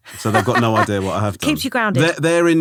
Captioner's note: laughing